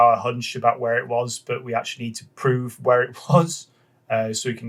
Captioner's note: laughs